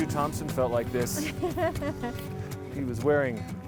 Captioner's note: laughing